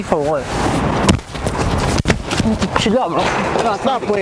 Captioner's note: shoving noises